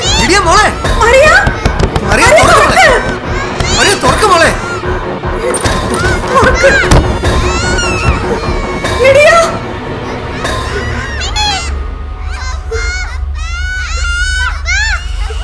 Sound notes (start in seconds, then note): 0.0 children are screaming in fear; 7.4 screaming